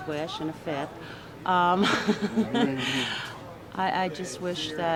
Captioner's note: chuckles